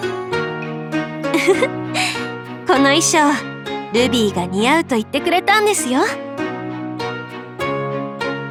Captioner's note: chuckle